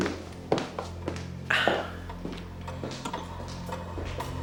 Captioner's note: heels clacking; tense music